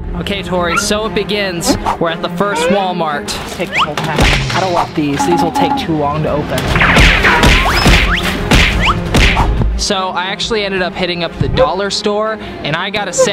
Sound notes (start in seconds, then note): 5.2 cartoon beeping